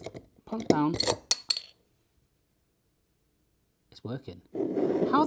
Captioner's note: bottle cap hitting counter